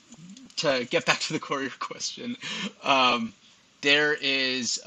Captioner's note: laughs